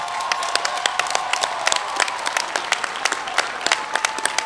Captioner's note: applause